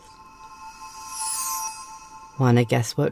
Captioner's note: magic humming